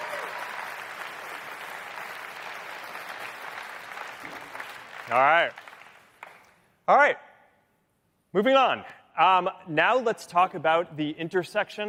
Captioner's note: cheering